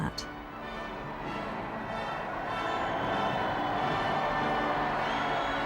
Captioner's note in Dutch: publiek juicht